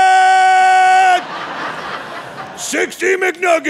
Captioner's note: audience laughing